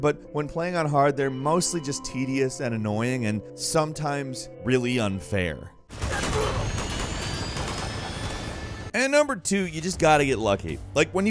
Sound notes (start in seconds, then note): 5.9 guns blasting